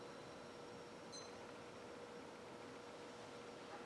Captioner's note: timer start beep